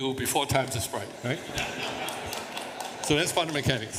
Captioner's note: laughter